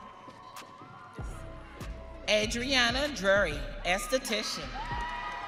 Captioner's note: audience cheering